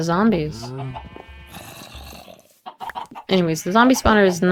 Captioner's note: distant zombie growls